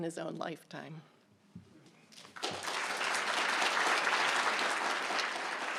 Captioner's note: applause